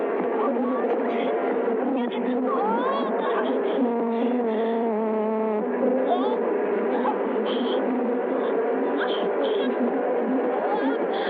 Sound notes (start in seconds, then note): 1.2 bees buzzing